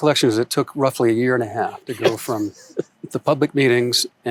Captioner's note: laughs